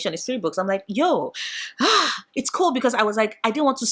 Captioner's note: sigh